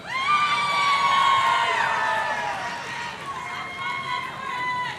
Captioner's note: audience cheering